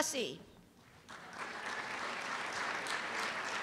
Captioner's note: applause